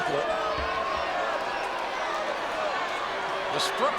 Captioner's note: audience chattering